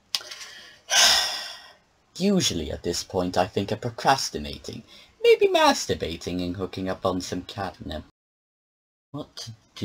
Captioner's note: sighs